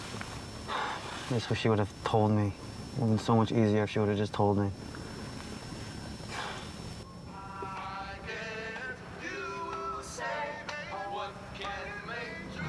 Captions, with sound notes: [SIGHS] I just wish she would have told me. It would have been so much easier if she would have just told me. [SIGHS] (SINGING) I guess you will say what can make her feel--